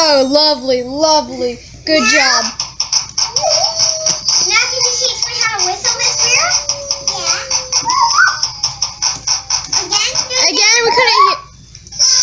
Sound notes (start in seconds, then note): 7.9 whistle noises